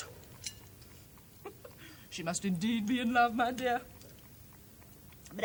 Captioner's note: giggles